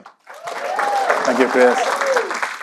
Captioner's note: audience cheering